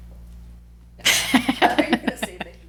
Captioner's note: laugh